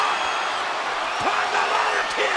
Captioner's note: audience cheering and clapping